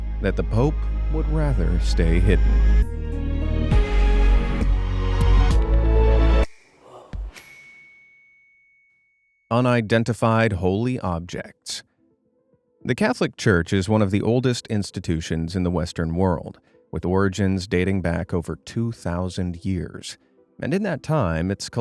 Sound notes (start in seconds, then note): 3.1 gentle suspenseful music; 7.4 bell dings